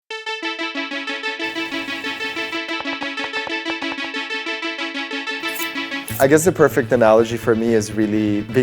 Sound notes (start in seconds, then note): 0.5 upbeat futuristic music; 2.9 knife chopping